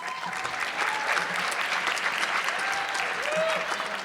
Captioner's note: audience clapping